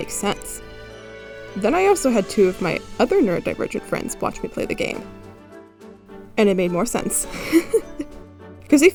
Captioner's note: laughs